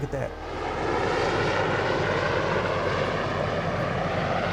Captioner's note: helicopter whooshing